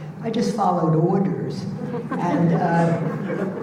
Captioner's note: audience laughing